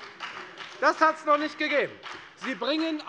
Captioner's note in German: Beifall bei der FDP